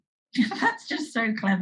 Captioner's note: laughs